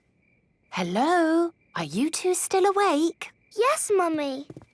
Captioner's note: whisper